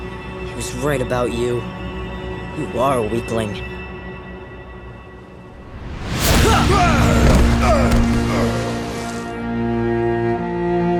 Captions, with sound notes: He was right about you. You are a weakling. [grunting]